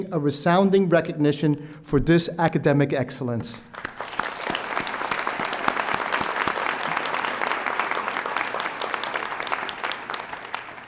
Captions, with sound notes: a resounding recognition for this academic excellence. (audience applauding)